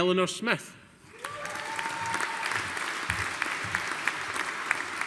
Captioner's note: audience applauding